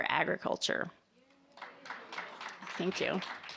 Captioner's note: audience applauding